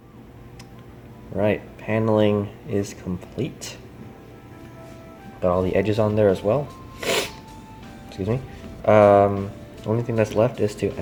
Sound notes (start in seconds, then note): 6.9 sniffs